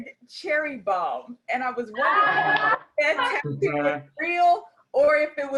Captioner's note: laughter